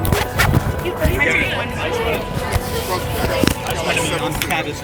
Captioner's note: people chatting